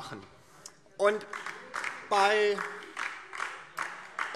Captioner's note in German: Beifall DIE LINKE